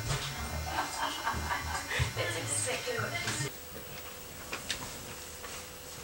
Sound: chuckles

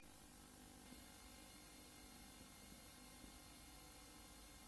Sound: VHS static

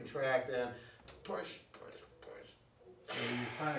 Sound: exhales

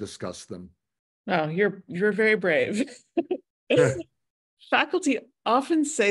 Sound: laughs

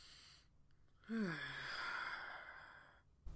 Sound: sigh

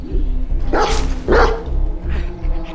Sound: barking continues

